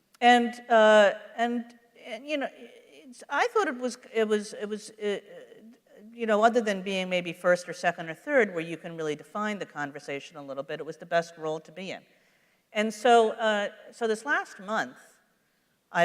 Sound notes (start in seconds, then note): none